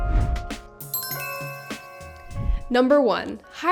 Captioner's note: bell tones ring